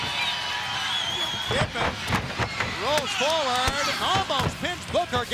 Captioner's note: bodies thudding